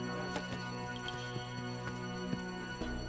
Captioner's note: footsteps